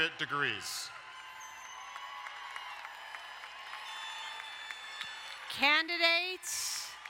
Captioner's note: crowd cheering and applauding